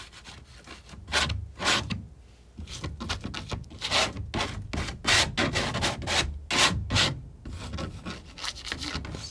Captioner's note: scratching